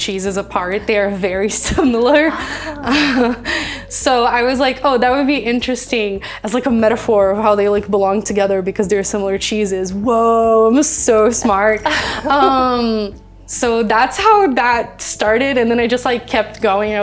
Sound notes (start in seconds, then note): 1.7 chuckles; 11.1 laughing